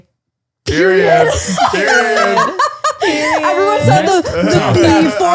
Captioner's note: laughing